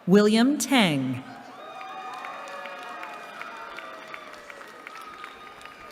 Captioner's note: cheering